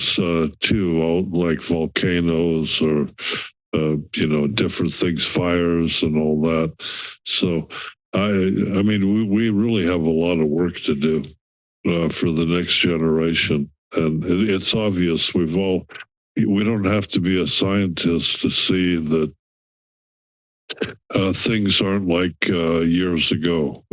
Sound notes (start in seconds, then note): 20.7 clears throat